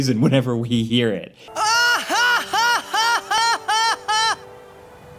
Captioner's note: Tidus laughing